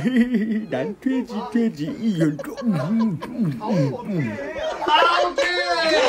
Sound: still eating

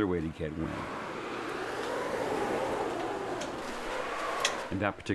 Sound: whooshing

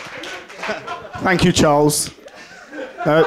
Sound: laughter

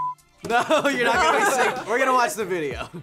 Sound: laughs

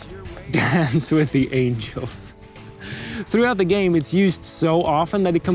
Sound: laugh

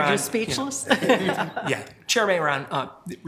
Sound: chair laughs

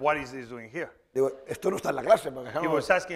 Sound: speaking spanish

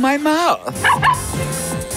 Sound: barking

